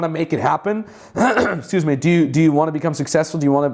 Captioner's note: coughs